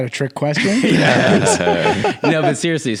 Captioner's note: everyone laughs